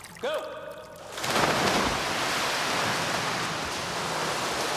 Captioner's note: water splashing